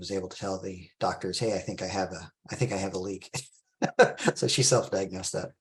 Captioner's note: laughs